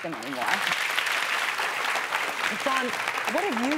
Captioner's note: applause